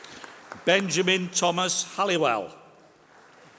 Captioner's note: applause